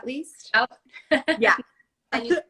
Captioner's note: laugh